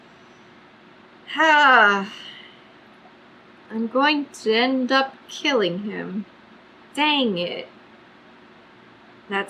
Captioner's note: sighs